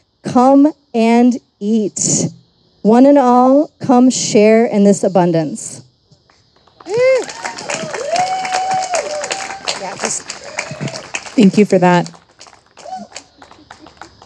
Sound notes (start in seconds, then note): 6.6 audience applauding and cheering